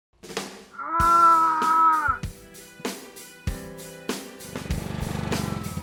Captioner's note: dummy groaning